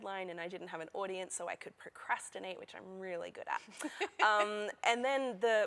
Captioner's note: laughter